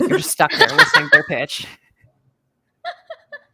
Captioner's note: laughs